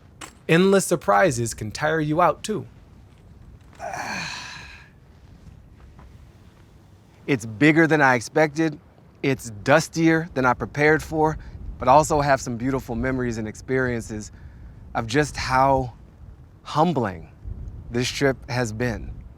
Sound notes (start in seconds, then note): 3.7 Baratunde sighs